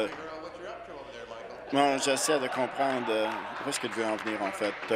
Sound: laughter

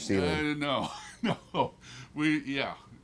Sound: chuckles

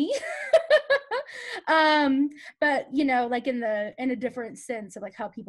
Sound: laughs

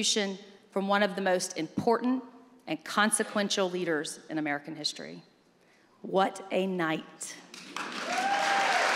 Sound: applause

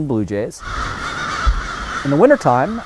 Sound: birds cawing

